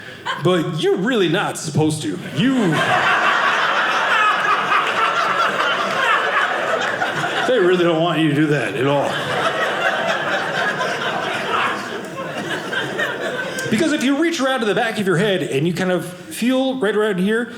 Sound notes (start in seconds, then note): 2.2 audience laughing; 8.9 audience laughing